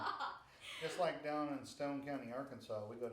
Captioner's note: laughing